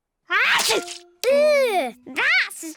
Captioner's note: sneezes